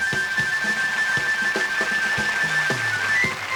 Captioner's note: applause